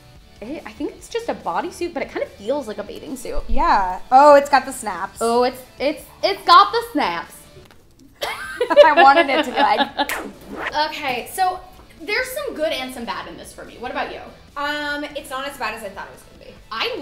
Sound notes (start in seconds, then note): 8.2 laughter; 10.0 snaps